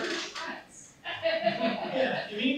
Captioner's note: laughter